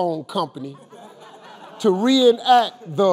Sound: audience laughing

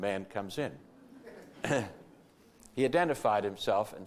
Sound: audience laughter

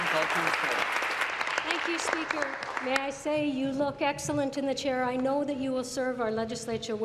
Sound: applause

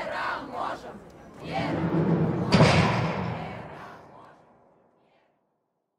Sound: chanting

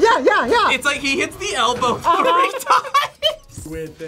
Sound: laughs

